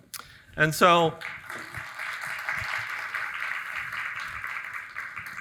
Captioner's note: audience applauding